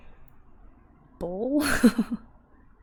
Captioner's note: laughs